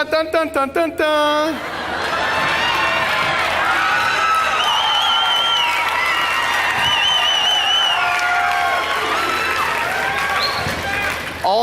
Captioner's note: extreme laughter and whistling